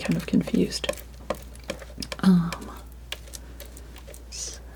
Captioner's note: tapping